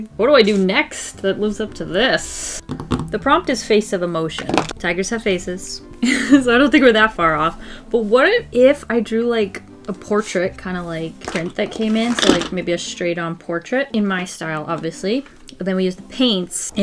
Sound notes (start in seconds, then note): 5.7 laughs